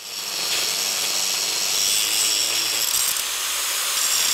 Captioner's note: grinder whirring